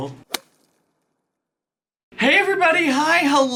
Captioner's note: whip cracks